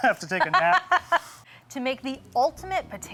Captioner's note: laughing